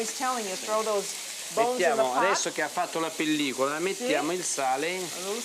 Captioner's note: speaking Italian; speaking Italian